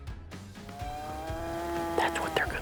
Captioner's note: cow moos